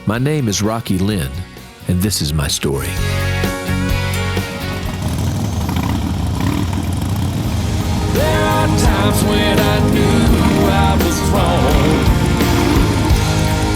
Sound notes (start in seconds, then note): 2.8 upbeat music; 6.0 motorcycle revs